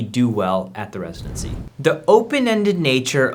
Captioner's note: air whooshing